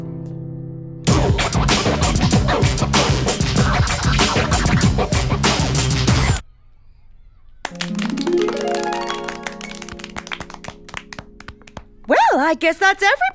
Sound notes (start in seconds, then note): 1.0 dance music plays; 7.6 applause